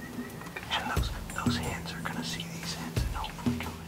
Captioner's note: whispering